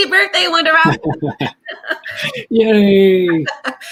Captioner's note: laughs